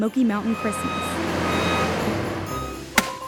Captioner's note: beeping; thunking